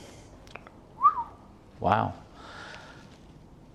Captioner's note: whistles